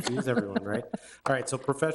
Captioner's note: laughs